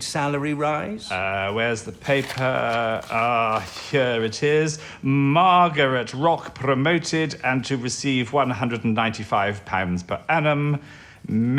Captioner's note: rustling of papers